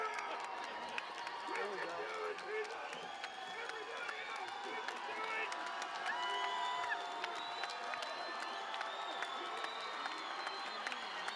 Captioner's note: cheering and Applause